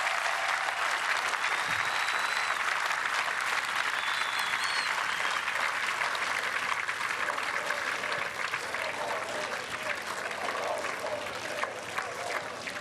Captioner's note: applause